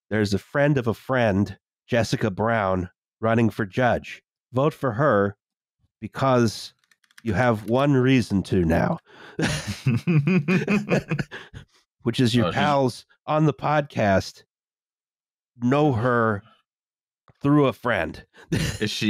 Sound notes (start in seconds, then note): 6.8 keyboard tapping; 9.3 laughter; 9.4 keyboard tapping